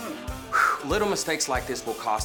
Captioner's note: exhales